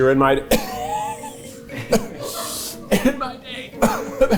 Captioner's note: coughing